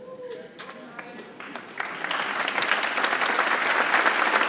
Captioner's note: audience clapping